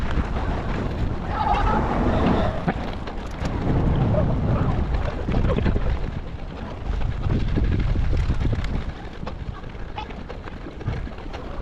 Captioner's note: wind blowing